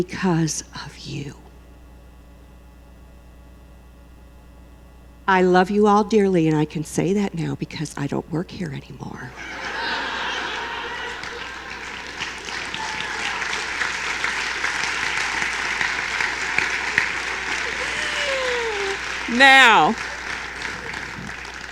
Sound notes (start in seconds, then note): 10.7 laughter; 11.9 applause